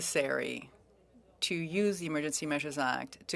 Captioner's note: speaking French